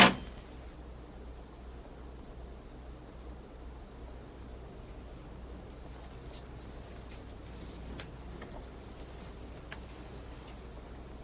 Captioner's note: blowing; bulb smashing